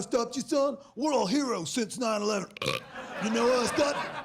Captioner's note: burps